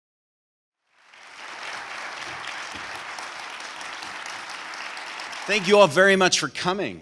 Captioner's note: applause